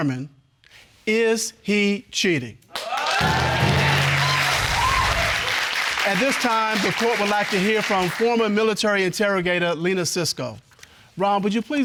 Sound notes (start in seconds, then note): 2.7 audience cheers and applauds